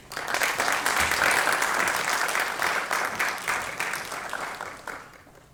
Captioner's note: applause